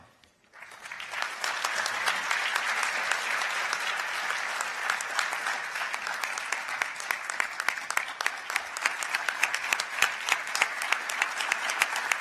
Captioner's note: applause